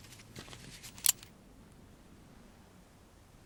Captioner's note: gun clicks